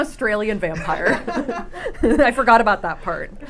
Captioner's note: laughing